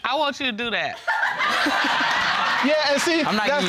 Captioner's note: all laughing